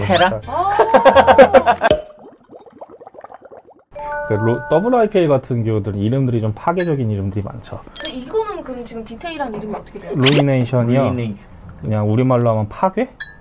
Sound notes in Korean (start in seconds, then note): 0.6 웃음